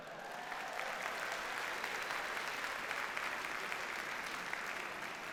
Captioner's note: audience cheers and applauds